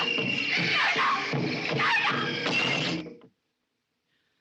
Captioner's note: thuds To Ground